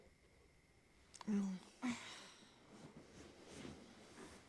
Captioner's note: sighing